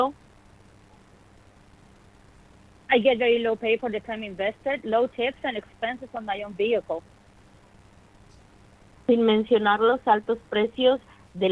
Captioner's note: speaking in spanish